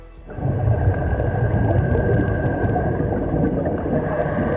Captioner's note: breathing